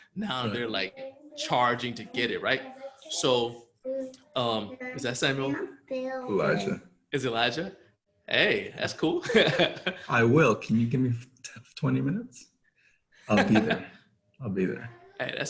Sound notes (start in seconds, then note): 9.2 laughs